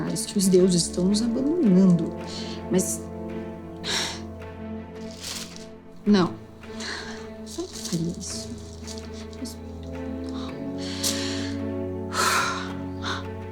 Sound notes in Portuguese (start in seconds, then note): 3.4 suspiro